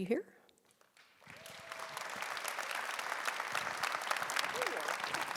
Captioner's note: audience applauding